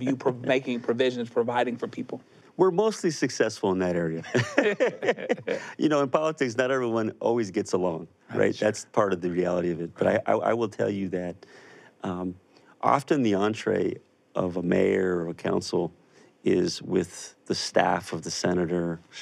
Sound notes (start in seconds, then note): 0.0 laughs; 4.2 both laughing